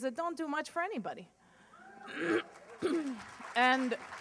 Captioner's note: applause